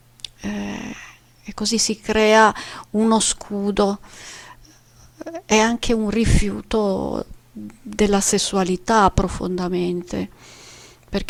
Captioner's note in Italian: sbuffare